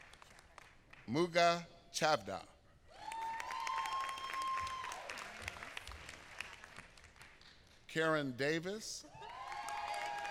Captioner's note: applause